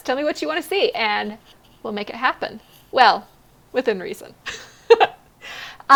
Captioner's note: laughs